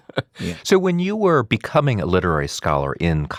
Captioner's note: laughs